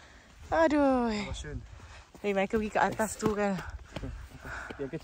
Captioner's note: sigh